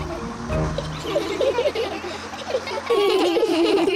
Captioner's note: all giggle